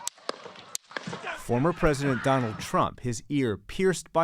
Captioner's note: gunshots